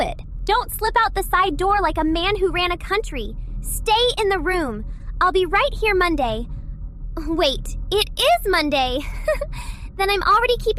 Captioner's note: laughs